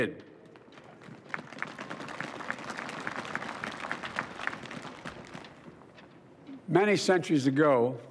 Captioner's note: applause